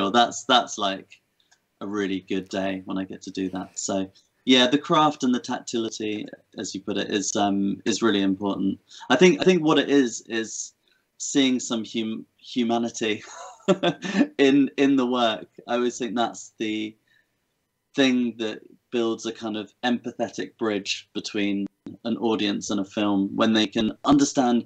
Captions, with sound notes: that's a really good day when I get to do that. Yes, the craft and the tactility as you put it is really important. I think what it is, is seeing some humanity [chuckles] in the work. I would say that's the thing that builds an empathetic bridge between an audience and a film when they can understand